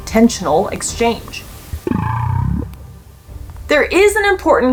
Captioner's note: whale vocalizations